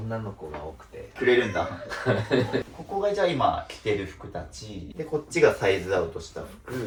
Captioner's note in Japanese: 笑い